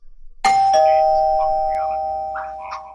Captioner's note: doorbell rings